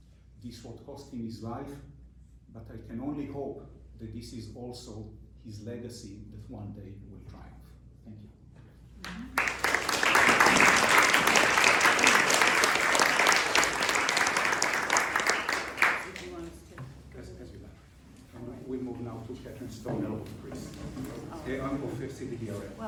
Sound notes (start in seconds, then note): 9.0 crowd applauding; 15.9 indistinct chatter